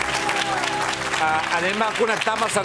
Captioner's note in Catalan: aplaudiments